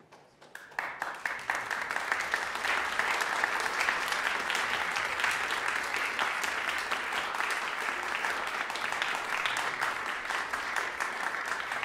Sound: applause

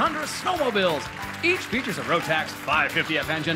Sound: cheers and applause

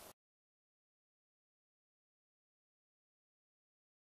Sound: silence

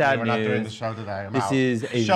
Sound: voice muffled

